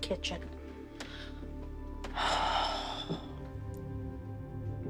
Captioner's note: sighs